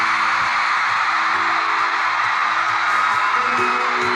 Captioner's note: loud crowd cheering